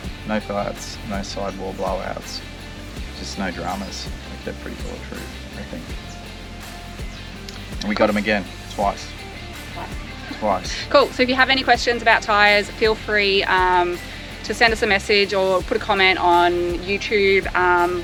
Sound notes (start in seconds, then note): 9.6 laughs